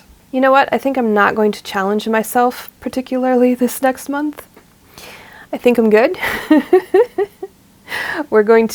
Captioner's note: laughs